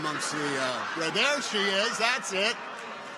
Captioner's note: people laugh